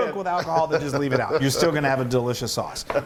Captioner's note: laugh